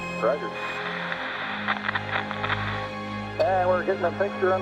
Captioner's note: static crackles